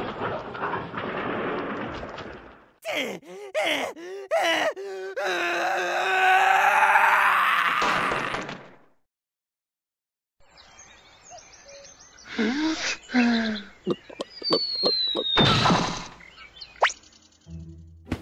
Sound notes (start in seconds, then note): 2.8 heavy breathing; 5.0 scream; 12.3 sigh